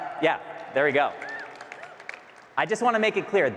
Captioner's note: audience cheering and clapping